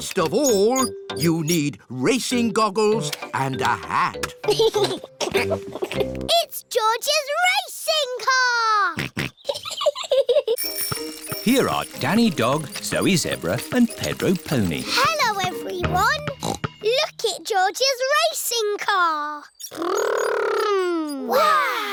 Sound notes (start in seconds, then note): 4.4 chuckles; 9.0 snorts; 9.4 chuckles